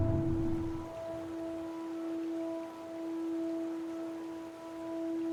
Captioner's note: water flowing